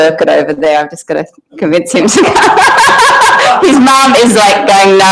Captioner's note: laughs